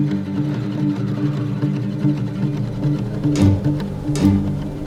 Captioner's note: exhales; gentle music